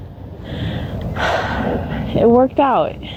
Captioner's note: sigh